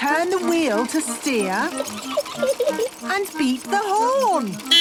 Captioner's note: giggling; beeping